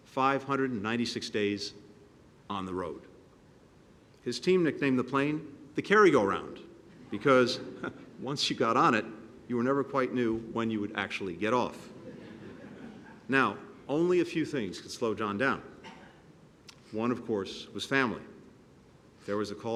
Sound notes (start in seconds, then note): 11.8 laughter